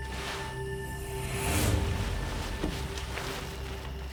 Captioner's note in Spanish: crujido de lona